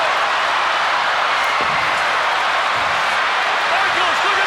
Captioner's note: crowd cheering